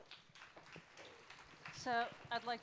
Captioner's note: applause